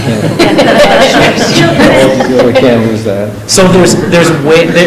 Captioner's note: laughing